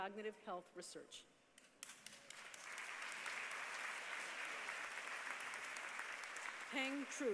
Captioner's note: applause